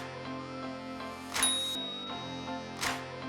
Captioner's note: chime; upbeat music